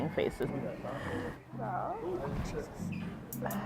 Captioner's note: groaning